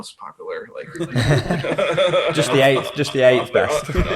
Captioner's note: laughing